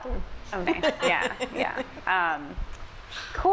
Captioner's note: laughs